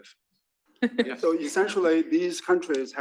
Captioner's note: laugh